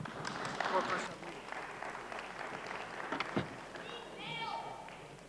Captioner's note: audience applauding